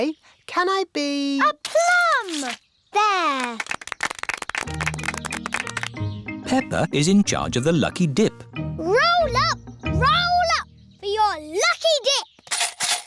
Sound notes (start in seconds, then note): 3.3 applause